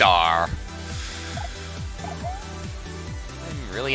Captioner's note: breathing